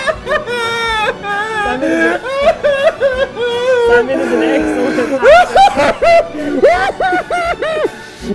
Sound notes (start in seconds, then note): 2.7 sobbing